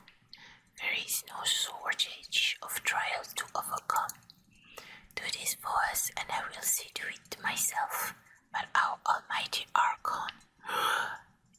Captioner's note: gasps